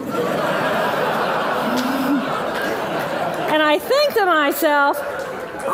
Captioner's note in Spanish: Risas